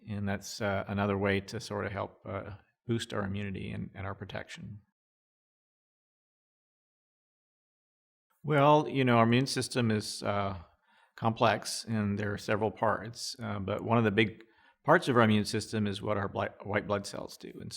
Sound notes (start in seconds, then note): 5.0 silence